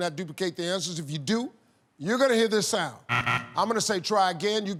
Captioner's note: buzzer